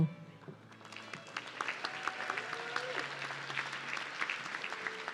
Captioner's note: audience clapping